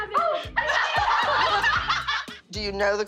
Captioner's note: all laughing